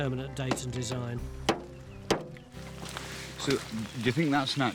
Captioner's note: shovel clangs